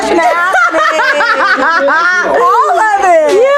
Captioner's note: laughing